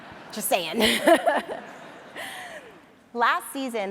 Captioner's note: audience laughs; laughs